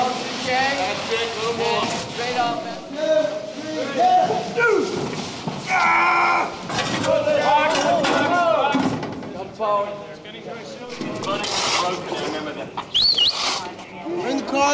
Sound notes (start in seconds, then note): 2.0 overlapping grunts and voices; 11.1 mechanical sounds, person whistles